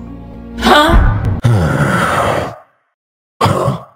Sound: very sad disgusting ultimate being noise

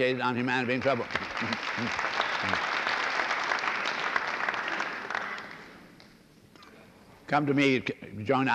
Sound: applause

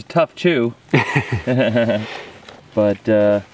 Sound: both laugh

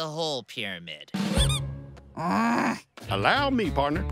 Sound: toy squeaks; grumbles

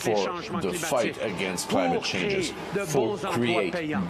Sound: speaking French

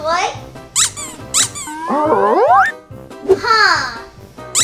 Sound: toy squeaks

